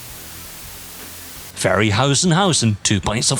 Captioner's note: white noise